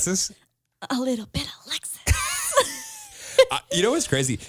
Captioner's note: laughs